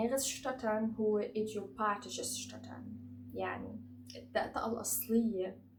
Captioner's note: in German